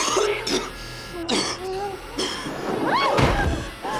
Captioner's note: Tyler coughing